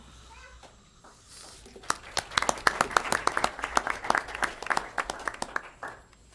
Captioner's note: applause